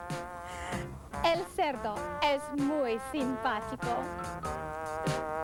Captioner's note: foreign Language